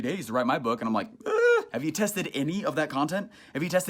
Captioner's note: gasps